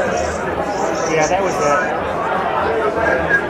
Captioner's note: crowd talking